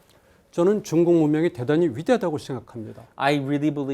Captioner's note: speaking in Korean